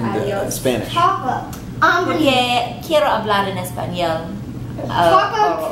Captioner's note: everyone speaking in Spanish